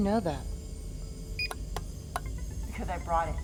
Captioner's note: beeping